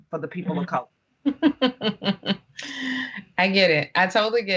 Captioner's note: laughing